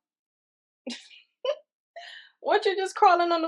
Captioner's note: laughing